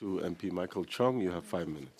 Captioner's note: speaking French